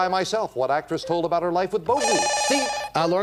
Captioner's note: beep